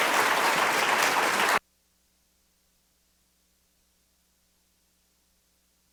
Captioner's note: applause